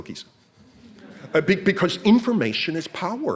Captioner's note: audience laughs